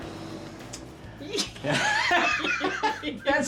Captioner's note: laughing